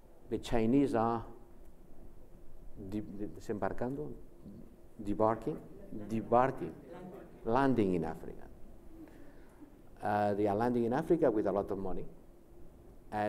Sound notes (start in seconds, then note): 3.3 speaks foreign language